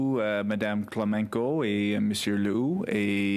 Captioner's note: speaking French